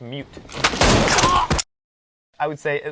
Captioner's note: gun shots blasting